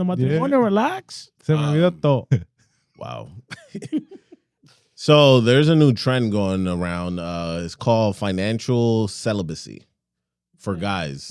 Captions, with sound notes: Wow. (Laughing) So there's a new trend going around, it's called financial celibacy, for guys.